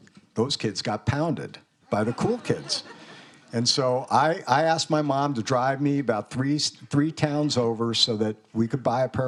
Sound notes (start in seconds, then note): 1.9 students laughing